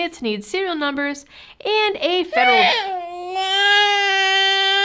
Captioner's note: angry baby noise